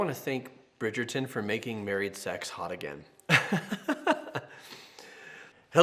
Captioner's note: laughs